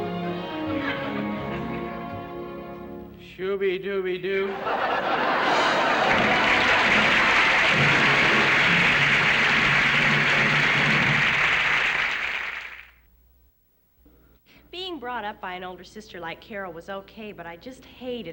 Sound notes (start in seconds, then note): 6.0 applause